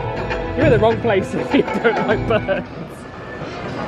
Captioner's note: laughs